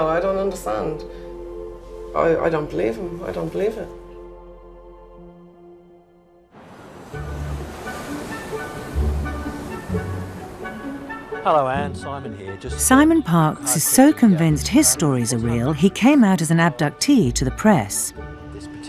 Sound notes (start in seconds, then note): 7.2 pleasant instrumental music; 13.2 voiceover